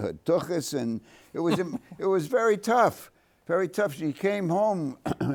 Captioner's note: chuckles